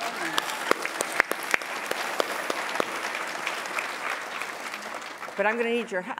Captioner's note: applause